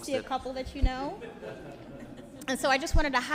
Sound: audience laughs

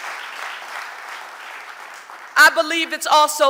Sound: audience applauding

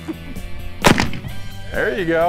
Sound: gunshot

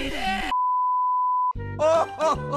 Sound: boooooooooop

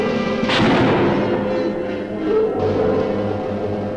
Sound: gun firing

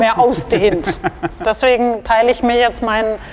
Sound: he laughs

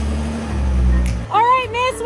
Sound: engine revving

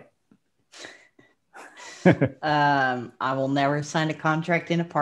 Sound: chuckles

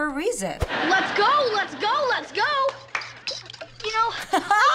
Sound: claps; laughs

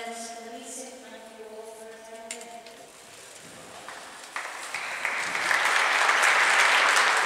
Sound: applause

